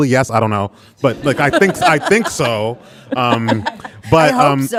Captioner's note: audience laughing